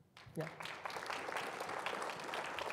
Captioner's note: audience applauding